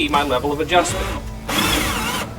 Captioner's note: drilling